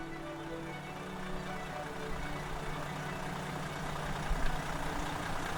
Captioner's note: engine roaring